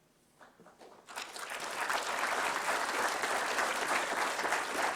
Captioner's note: applause